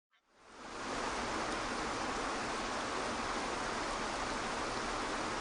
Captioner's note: waterfall splashing